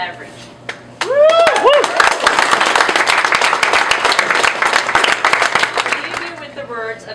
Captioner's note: applause